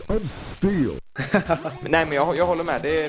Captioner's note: laughs